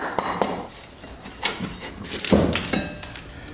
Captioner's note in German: Knacken